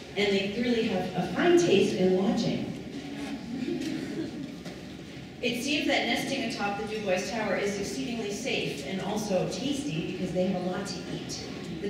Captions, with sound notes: and they clearly have a fine taste in lodging. [Laughing] It seems that nesting atop the Du Bois tower is exceedingly safe and also tasty because they have a lot to eat.